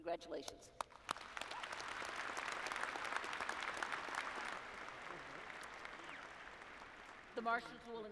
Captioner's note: applause